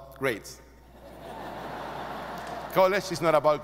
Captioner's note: audience laughing